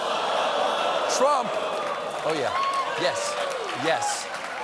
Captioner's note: audience reacts